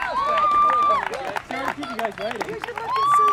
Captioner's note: loud cheering